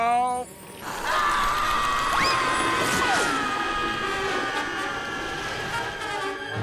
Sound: screaming

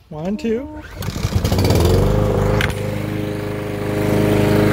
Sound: lawnmower starts

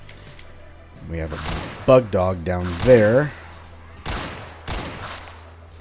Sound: gunfire continues

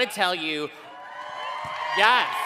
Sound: cheering

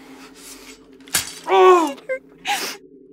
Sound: groans

